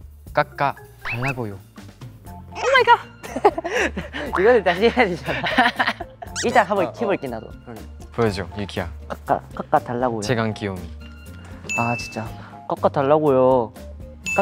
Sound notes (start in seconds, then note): 9.0 murmuring